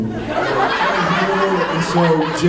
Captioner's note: laughs; fake laugh